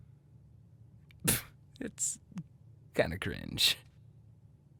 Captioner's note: scoffs